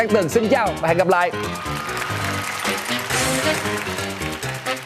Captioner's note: clapping